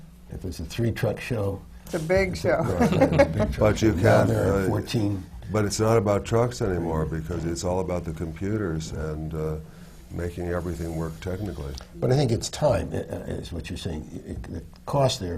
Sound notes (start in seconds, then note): 2.7 laughs